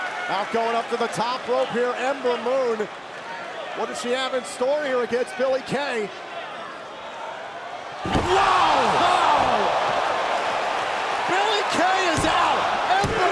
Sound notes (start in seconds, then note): 0.0 crowd cheering; 11.2 crowd cheering